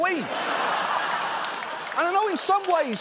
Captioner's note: audience laughing